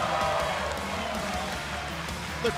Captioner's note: cheers and applause